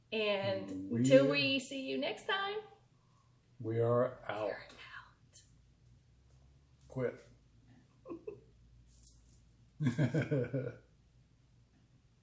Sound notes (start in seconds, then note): 8.2 laughs